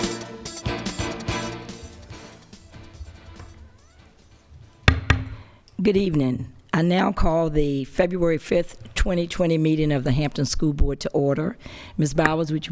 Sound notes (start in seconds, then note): 4.8 gavel